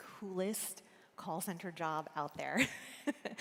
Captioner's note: laughs